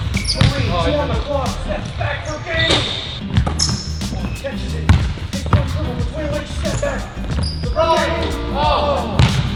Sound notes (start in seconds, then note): 2.8 ball hits rim; 5.4 murmurs; 9.1 ball bounces